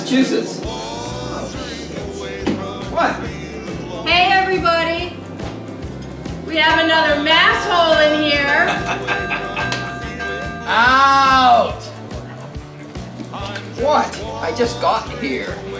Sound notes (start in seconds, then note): 8.6 Bradley laughing; 8.9 bell ringing